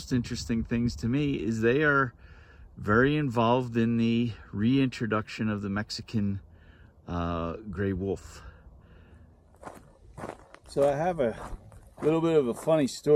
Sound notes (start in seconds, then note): 9.4 gravel crunching underfoot